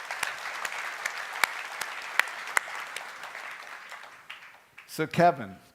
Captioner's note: applause